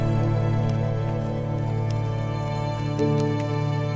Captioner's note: typing